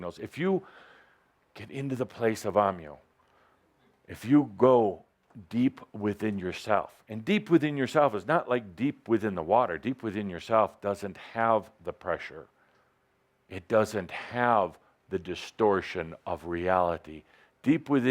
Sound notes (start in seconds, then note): none